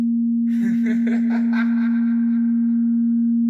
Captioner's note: laughter